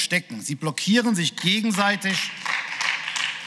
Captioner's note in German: Beifall